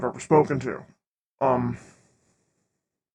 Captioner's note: awkward silence as I try to formulate words